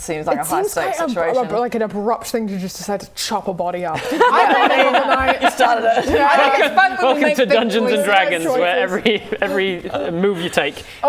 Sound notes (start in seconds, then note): 4.0 laughing